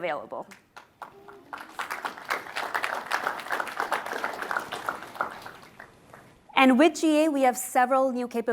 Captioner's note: applause